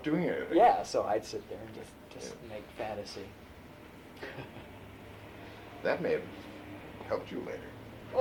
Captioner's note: laughs